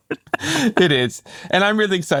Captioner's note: both laughing